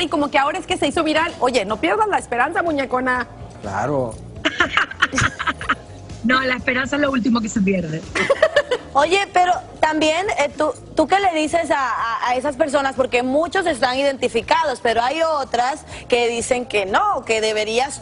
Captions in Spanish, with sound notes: ESCUCHO TU ÍDEO LE DEÍA "ME PASA LO MISMO". PODEMOS RECAUDAR FIRMAS. [RISAS] EL ÍDEO SE HIZO EN DICIEMBRE, PERO AHORA SE HIZO VIRAL. NO PIERDAS LAS ESPERANZAS. NO. LA ESPERANZA LOÚLTIMO